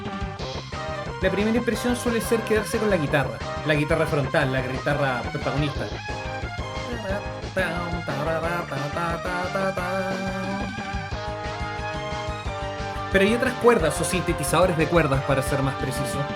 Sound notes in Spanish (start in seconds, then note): 9.3 tararea